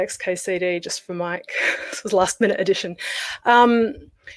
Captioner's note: laughs